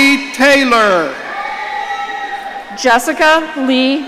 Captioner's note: audience cheering